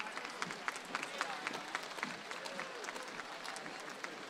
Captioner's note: audience applauds